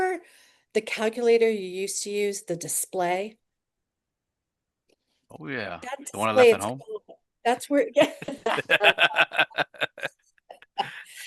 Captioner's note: laughs